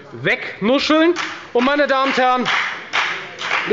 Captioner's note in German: Beifall bei der FDP